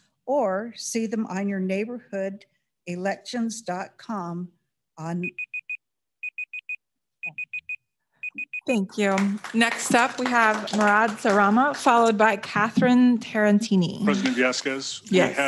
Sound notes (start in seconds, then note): 5.5 beeper beeping